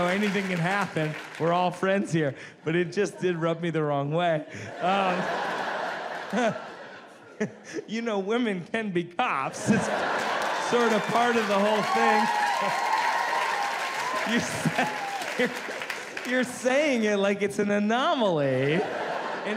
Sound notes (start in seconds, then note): 4.5 laughs; 4.8 audience laughs; 9.7 audience claps and cheers